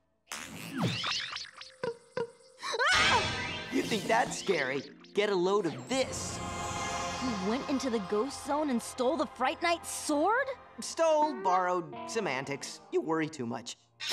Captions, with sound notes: [shrieking] You think that's scary? Get a load of this. You went into the ghost zone and stole the Fright Knight's sword? Stole, borrowed. Semantics. You worry too much.